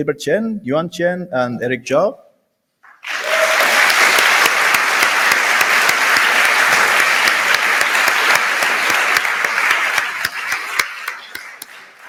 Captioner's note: applause